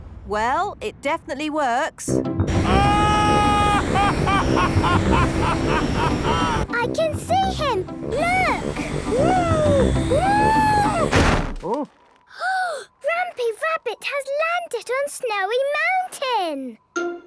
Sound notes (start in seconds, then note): 2.6 excited screaming, laughing; 10.8 snowy crashing